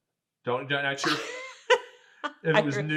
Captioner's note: laughing